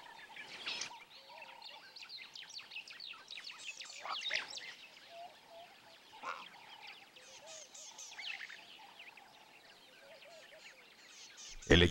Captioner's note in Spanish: sonidos selváticos